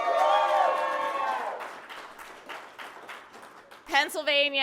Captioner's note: applause